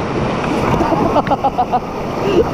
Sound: laughing

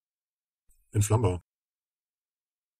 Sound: fast Pronunciation

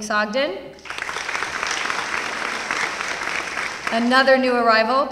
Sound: applause

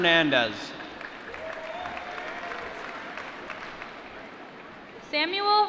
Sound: applause

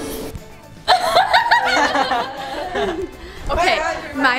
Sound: laughing

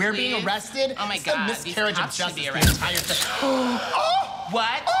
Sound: gasps

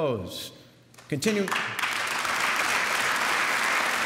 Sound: applause

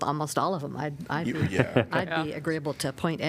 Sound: laughter

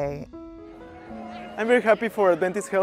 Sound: group cheers

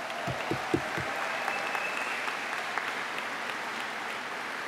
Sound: applause

